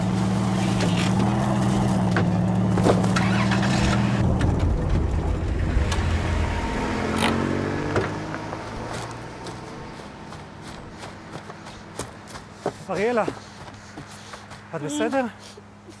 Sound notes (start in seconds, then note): 2.6 car engine starts; 11.7 leaves crunching